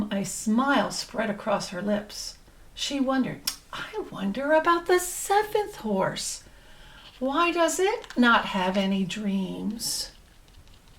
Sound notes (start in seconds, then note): none